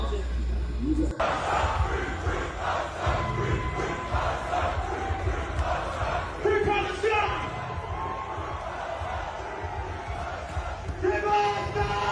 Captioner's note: crowd Chanting